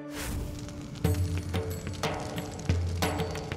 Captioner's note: fire crackling